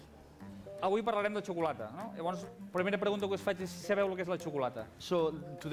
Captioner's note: non-english speech